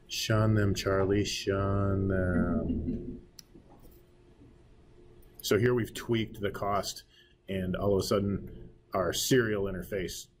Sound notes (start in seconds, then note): 2.4 students chuckling